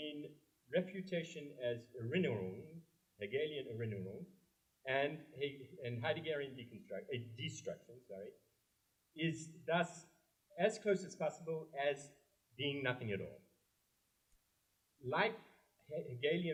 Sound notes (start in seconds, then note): 1.9 german